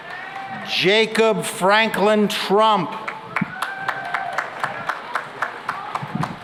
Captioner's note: cheering and applause